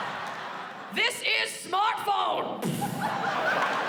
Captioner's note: mimics thud; laughter